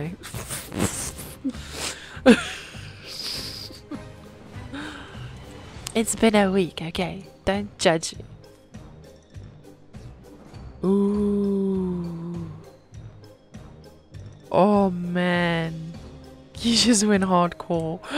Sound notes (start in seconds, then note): 10.6 excited noises about weather change